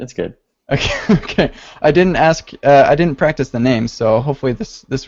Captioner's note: laughs